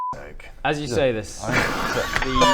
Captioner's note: nervous laughter